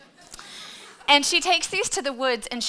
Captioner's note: audience laughing